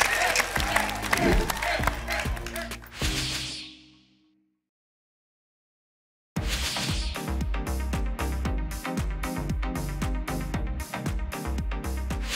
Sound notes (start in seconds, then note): 2.9 whoosh